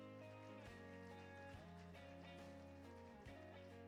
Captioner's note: applauding